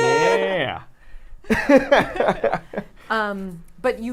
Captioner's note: laughs